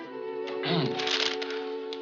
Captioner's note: clears throat